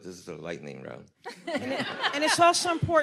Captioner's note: audience laughs